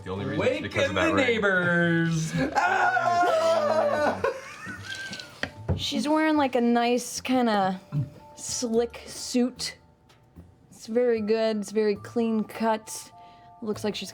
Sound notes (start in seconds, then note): 2.5 cheers